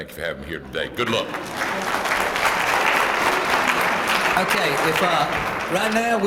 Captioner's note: applause